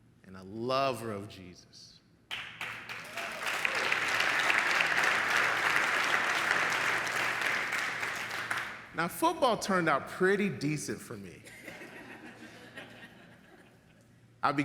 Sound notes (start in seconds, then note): 2.3 audience applauds; 11.6 audience laughs